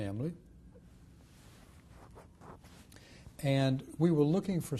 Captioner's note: pauses for 3 seconds